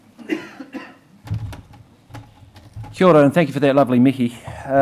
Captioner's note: coughing